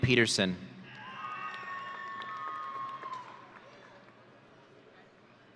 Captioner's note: audience cheering